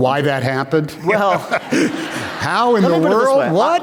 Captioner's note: laughter